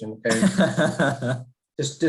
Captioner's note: laughs